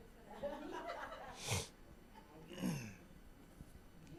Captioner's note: distant laughing